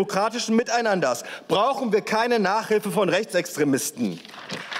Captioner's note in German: Beifall